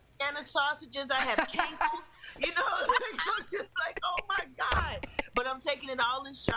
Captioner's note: laughter